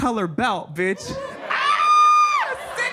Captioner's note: audience laughs